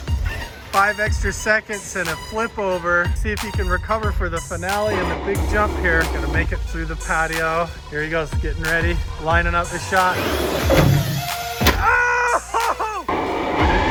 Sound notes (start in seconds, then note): 9.4 car slamming down; 10.3 car revving